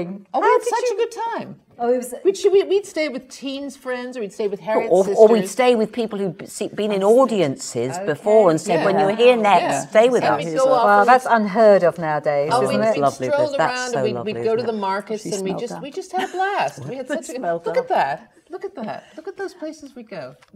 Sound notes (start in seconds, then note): 16.2 laughs